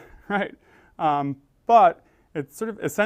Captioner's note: laugh